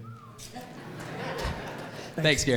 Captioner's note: audience laughs